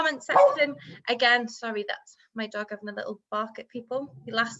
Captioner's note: dog bark